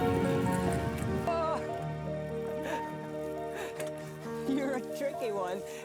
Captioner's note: laughs